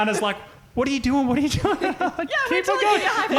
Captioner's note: laughing